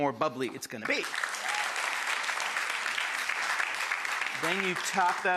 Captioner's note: audience claps